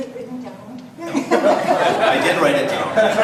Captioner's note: audience laughs